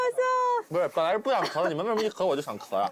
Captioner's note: coughs